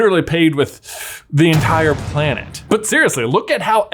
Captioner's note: ominous crashing